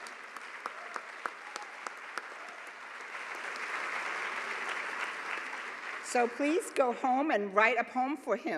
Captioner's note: applause